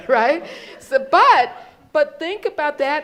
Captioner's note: crowd laughs